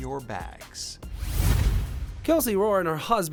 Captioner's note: swooshing